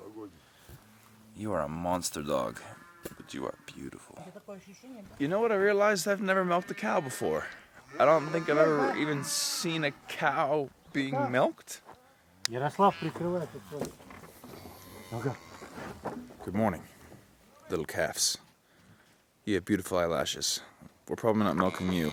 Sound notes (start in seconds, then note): 13.6 man speaking foreign language; 14.5 cow mooing